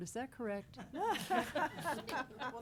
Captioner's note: all laughing